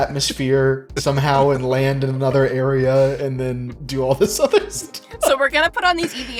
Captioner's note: laughs